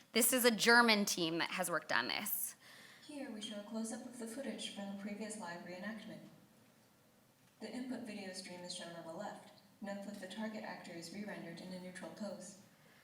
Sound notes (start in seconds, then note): 3.2 voiceover